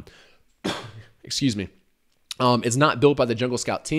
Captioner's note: coughs